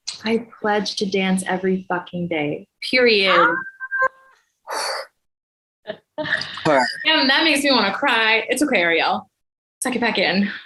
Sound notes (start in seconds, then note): 3.3 exclaims